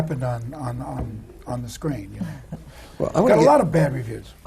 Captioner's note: none